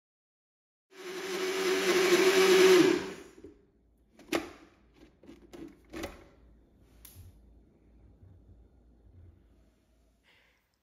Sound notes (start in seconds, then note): 0.9 sound of mixer grinder